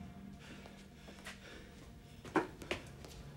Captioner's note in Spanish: respirando con dificultad